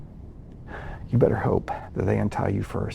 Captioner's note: sighing